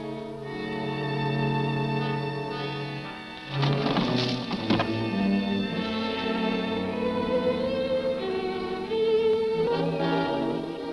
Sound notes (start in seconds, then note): 3.4 scuffling noises